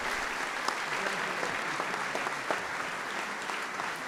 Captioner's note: applause